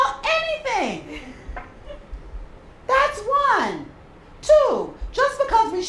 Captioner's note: laugh